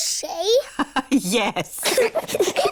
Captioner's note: both giggle; laughs